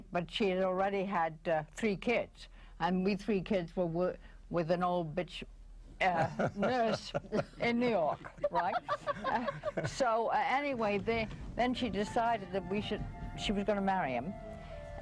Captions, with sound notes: But she had already had three kids and we three kids were with an bitch... Uh, nurse in New York, right? (laughing) So anyway, then she decided that she was gonna marry him,